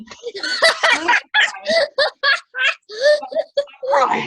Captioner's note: laughs loudly